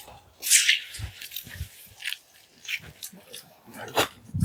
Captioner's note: crunching footsteps